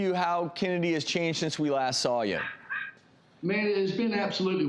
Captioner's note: dog barking